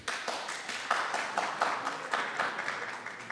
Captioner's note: applause